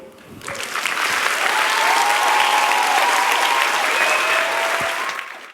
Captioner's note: cheers and applause